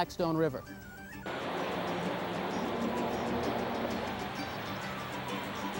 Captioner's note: water rushing